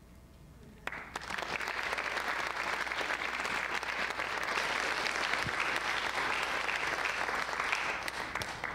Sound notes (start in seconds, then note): 0.8 audience applauding